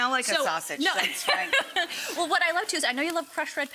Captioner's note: laughing